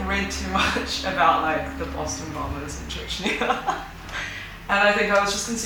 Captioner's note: laughs; laughs